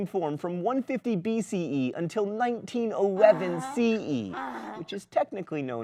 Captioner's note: donkey braying